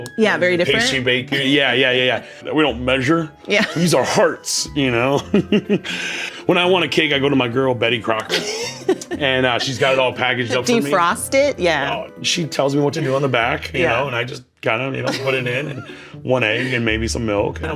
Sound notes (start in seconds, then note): 5.1 laughs; 8.1 laughs; 16.2 laughs